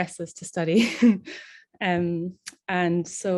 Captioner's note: laughing